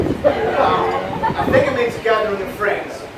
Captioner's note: laughs